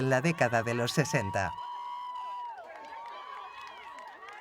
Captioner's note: crowd cheering